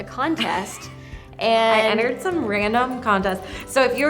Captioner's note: laughs